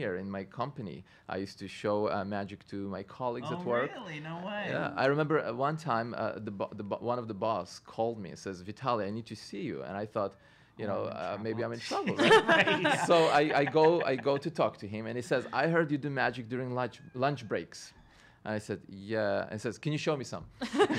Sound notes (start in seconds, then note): 6.5 stutters; 12.0 laughing; 13.8 stutters